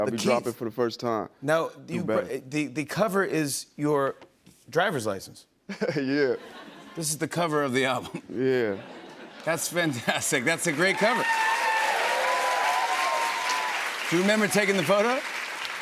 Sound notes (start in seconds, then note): 10.6 cheering